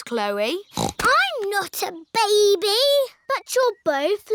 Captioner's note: snorts